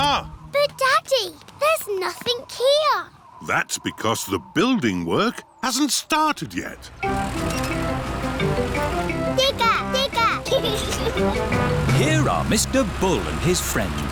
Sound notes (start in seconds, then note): 9.9 giggles